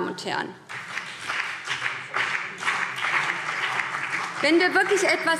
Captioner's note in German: Beifall BÜNDNIS 90/DIE GRÜNEN